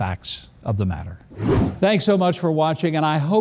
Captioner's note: air whooshes